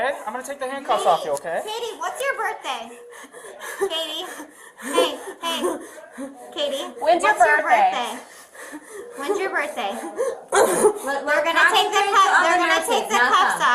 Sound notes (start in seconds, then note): 2.4 breathing heavily